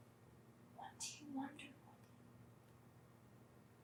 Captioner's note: whispering